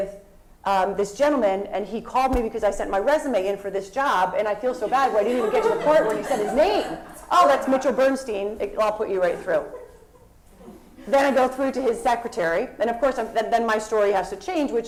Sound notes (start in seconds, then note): 4.8 laugh